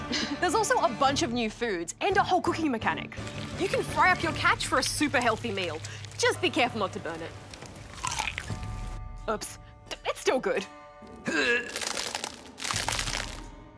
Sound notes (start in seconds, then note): 0.0 laughs; 7.7 crunch!; 11.2 man vomits